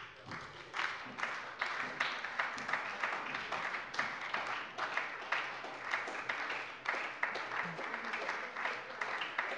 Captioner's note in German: Beifall bei der SPD